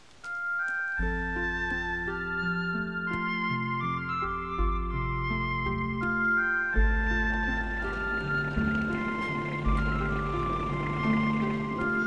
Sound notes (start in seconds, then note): 0.2 mellow music playing; 7.6 car engine revving